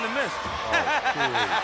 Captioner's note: laughs